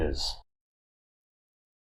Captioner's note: silence